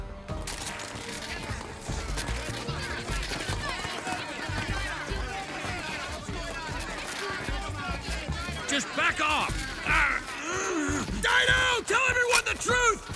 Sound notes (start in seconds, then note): 0.3 all clamouring; 0.3 cameras clicking; 9.8 straining